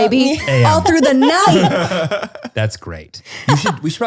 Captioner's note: laughter